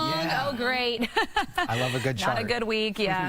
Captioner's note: laughs